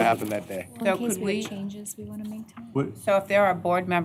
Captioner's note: indistinct chatter